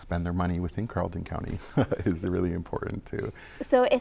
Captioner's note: chuckles